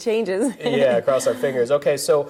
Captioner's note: laughs